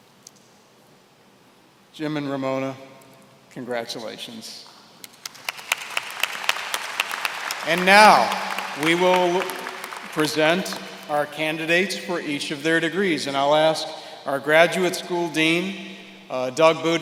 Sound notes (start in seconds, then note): 5.1 applause